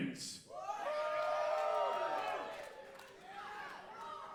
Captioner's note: audience cheering